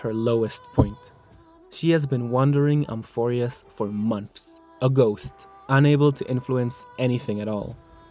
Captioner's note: bad mic sounds